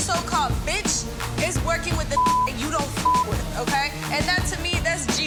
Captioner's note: beep